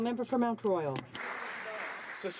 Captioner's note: speaking French